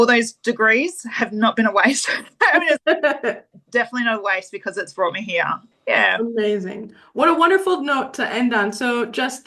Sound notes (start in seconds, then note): 2.1 haha